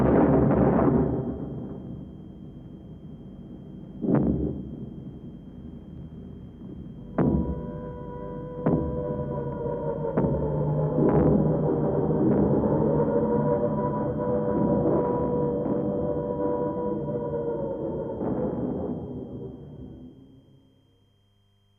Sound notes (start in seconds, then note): 0.3 loud explosions; 8.2 sirens wailing